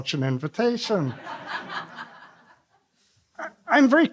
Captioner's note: laughs